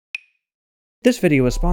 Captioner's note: tick, tick, tick, tick, tock